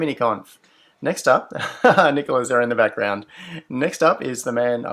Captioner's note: laughs